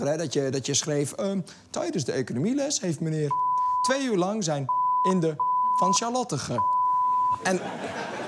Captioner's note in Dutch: piep